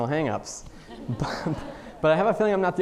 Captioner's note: audience laughing